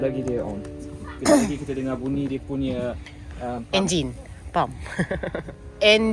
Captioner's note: laugh